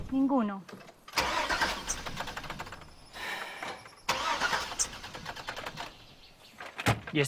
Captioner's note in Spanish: Intenta encender el motor dos veces